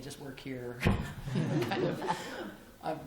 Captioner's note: laughter